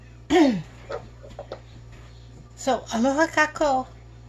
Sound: clears throat

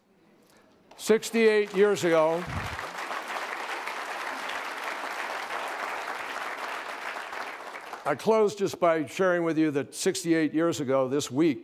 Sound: applause

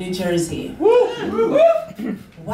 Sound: wooping

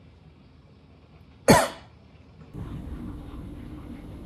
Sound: coughs

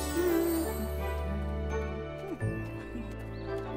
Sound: Pinkfong humming

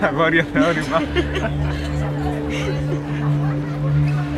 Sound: laughter

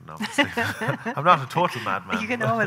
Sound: laughing

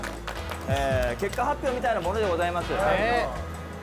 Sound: heart thumping from excitement

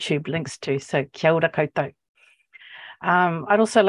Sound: speaking Maori

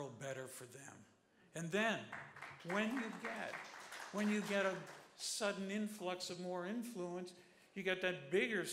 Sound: applause

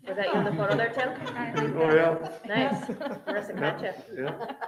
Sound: members Laughing

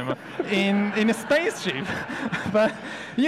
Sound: audience laughs

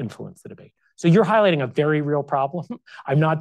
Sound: chuckles

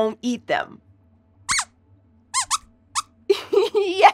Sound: squeaks squeaks

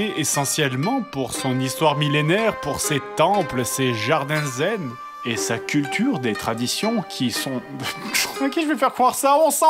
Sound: chuckle

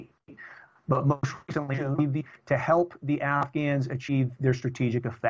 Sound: audio corruption

